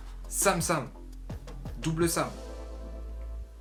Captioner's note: in french